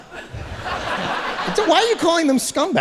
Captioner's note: audience laughing